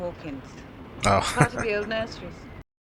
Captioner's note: chuckling